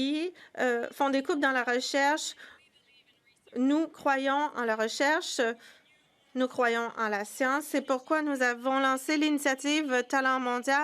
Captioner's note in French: voix de l'interprète